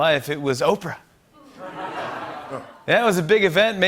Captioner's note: laughter